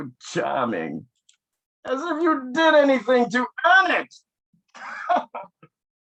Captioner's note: laughs